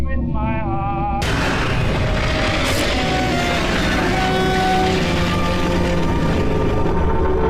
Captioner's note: soft intense music; static hissing loudly